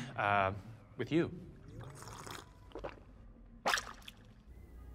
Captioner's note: slurp, gulp